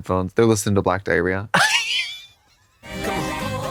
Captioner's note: Katya giggles